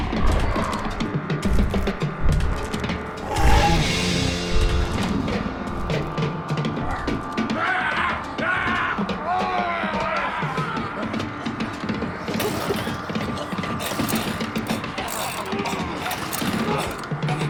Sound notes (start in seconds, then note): 0.2 zombie spartacus growling; 7.5 zombie walte yelling; 12.3 bucky gagging; 12.3 engine sputtering